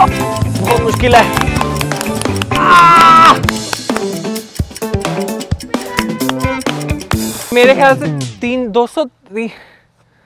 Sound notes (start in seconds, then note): 2.5 screaming